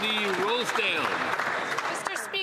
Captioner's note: some Applause